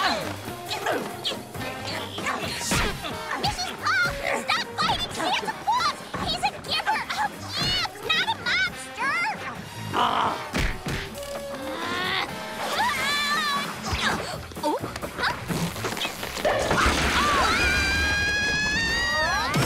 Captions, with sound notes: Mrs. Puff! Stop fighting Santa Claus! He's a giver of gifts! Not a monster! Ugh! [growling] Oh! [screaming]